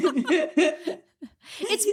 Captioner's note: both laughing